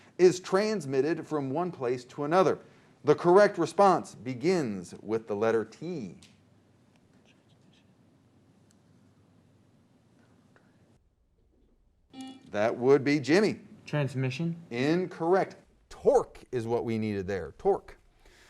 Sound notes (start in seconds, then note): 12.1 buzzer